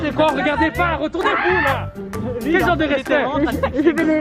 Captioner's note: uses CRAZY SCREAM